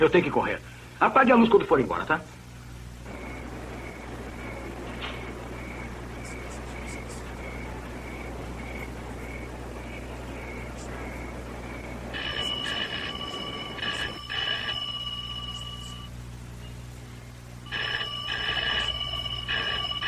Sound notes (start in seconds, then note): 11.5 phone Ringing; 14.7 groans; 14.7 rings